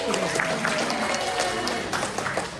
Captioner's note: applause